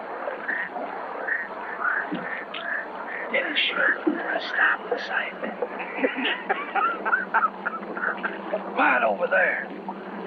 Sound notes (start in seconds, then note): 5.6 men laugh